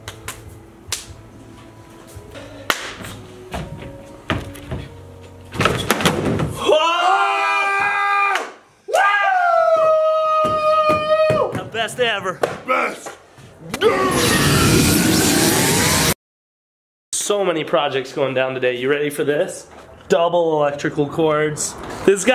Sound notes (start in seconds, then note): 0.2 slapping; 5.6 skateboard flipping; 7.2 yelling, cheering